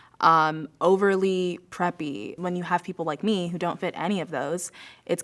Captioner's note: none